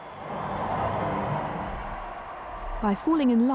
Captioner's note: crowd cheering